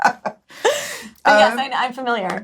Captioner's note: both laugh